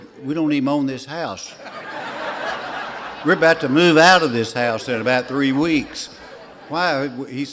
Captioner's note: laughter